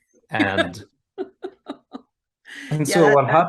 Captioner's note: laughs